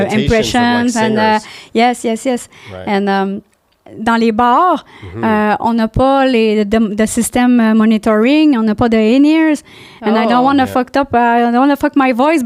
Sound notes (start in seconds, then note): 3.0 in french